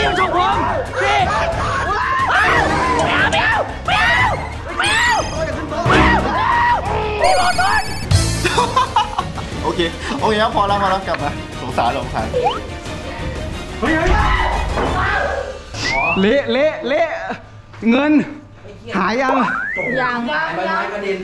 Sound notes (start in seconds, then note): 4.7 screams; 8.4 laughs; 9.8 radio; 14.0 screaming continues